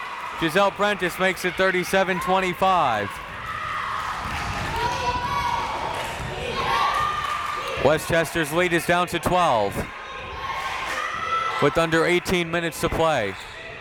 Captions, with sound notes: Gessell Prentice makes it 37-25. (crowd members chanting) Westchester lead is down to 12, with under 18 minutes of play.